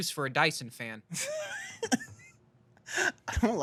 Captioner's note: laughs